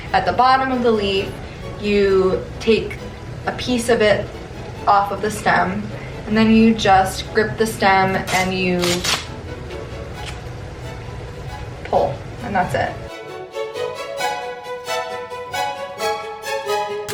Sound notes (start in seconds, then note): 8.8 leaf ripping; 13.5 upbeat orchestral music